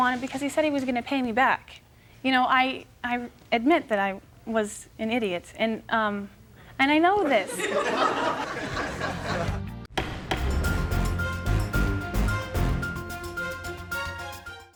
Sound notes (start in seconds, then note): 7.2 audience laughing; 8.6 upbeat music